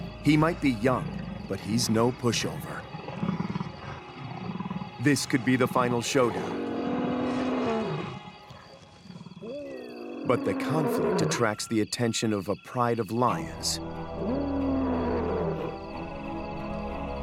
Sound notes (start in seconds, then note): 7.8 lioness groaning; 13.8 dramatic music